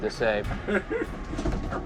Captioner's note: laughs